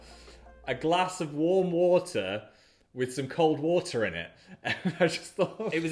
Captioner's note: chuckles